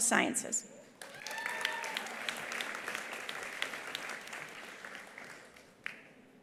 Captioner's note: attendees applauding; attendees cheering